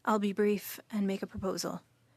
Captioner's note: speaking French